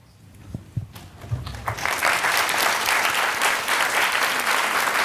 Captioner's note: audience applauding